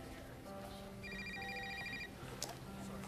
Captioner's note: ringing of cell phone